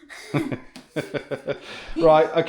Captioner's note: laughter